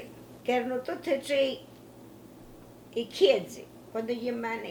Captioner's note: speaking in foreign language